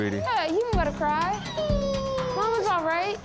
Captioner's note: crying